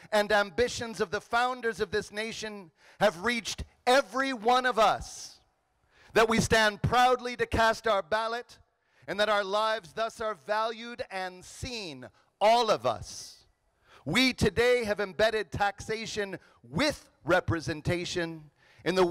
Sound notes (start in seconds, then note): none